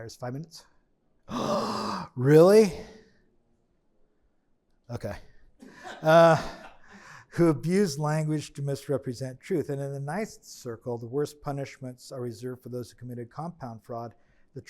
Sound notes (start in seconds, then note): 5.7 attendee laughing